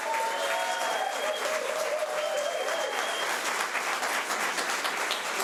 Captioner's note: audience applause